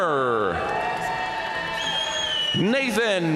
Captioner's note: audience cheering and applauding